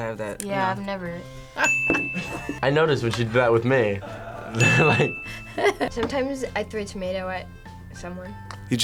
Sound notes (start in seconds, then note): 2.0 laughs; 3.8 laughs